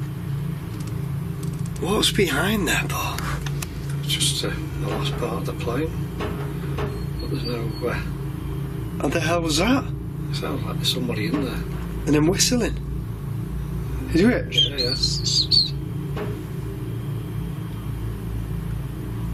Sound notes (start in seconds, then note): 14.5 whistling